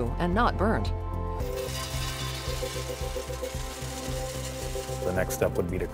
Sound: beans poured into cracking machine

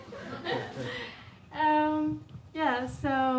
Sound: audience chuckling

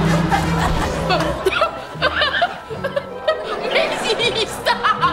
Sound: laughing

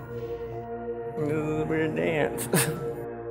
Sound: laughing

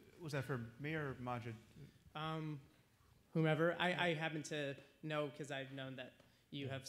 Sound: none

